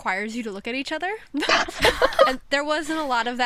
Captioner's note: hosts laugh